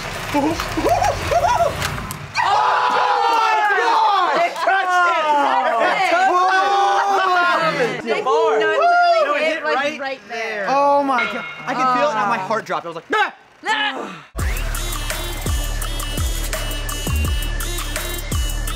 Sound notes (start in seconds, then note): 0.0 car whirring; 0.6 laughing; 2.3 screaming; 6.3 screaming and laughing; 13.5 yelling and groaning; 14.4 electronic music